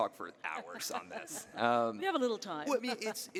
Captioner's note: laughing